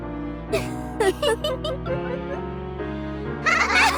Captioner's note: giggle, giggle, giggle, giggle